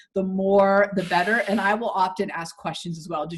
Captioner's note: static buzzing